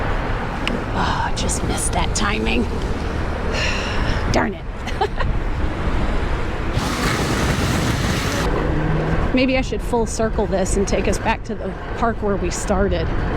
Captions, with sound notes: argh, just missed that timing [sigh] darn it! [giggle] maybe i should full circle this and take us back to the park where we started